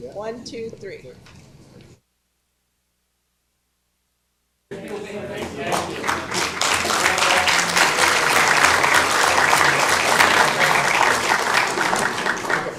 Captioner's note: applause